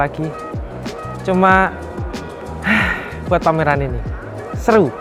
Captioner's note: sigh